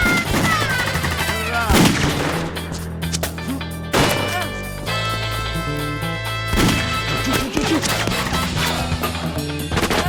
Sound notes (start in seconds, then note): 1.9 gunshot